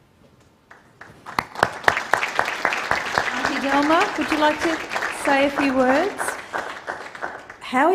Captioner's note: applause